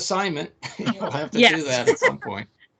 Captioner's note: laughing